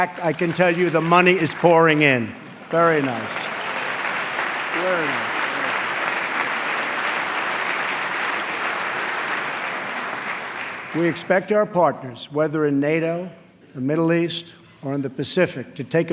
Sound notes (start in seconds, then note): 7.0 applause